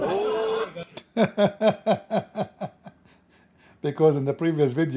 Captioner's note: Ketawa